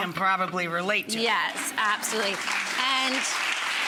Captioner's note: audience applause